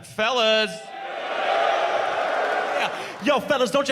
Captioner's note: fellas cheer